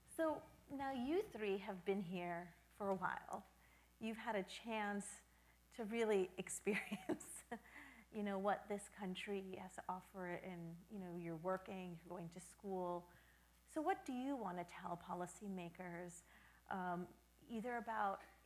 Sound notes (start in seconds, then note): 7.6 chuckles